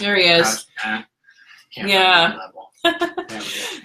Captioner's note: laughs